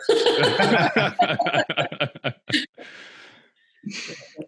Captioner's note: laughing loudly